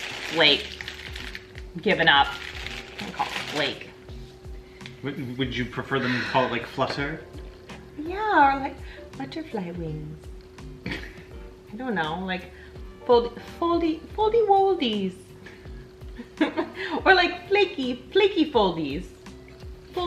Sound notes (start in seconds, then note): 10.8 laughing quietly; 16.0 laughs